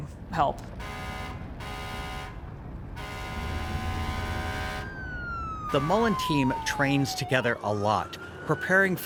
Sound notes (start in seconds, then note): 4.5 siren blaring